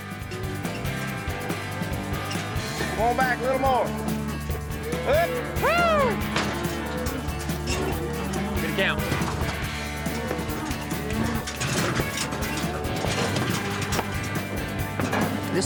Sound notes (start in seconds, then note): 6.3 mooing; 10.3 gates clanking, cows mooing; 13.1 hoof beats